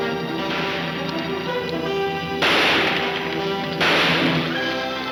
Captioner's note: gunshots banging